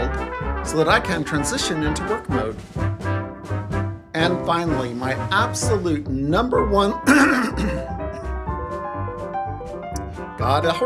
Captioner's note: clears throat